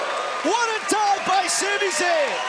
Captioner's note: crowd cheering